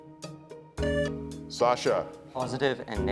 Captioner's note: tone sounds